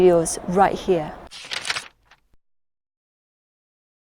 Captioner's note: shuffling